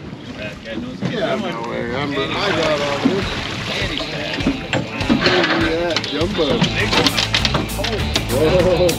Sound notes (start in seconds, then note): 2.2 splashing; 8.5 chuckling